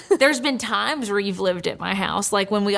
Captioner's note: laughing